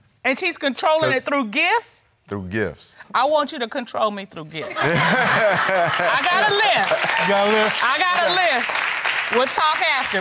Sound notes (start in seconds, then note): 2.9 all laughing